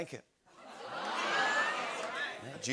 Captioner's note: audience oohs